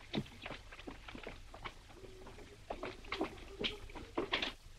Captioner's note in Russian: Марта напевает